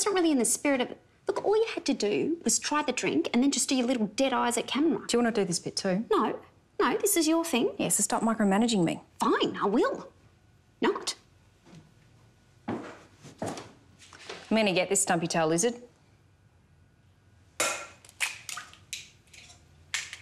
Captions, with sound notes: - But that's not really in the spirit of... Look, all you had to do was try the drink and then just do your little dead eyes at camera. - Do you want to do this bit too? - No, no, this is your thing. - Yeah, so stop micromanaging me. - Fine, I will... not. - I'm gonna get this stumpy-tailed lizard. (eggs cracking)